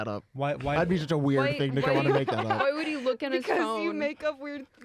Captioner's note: laughter